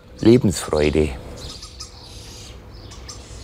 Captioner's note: chickering bird noises